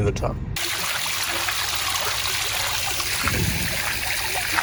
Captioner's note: water fountain splashing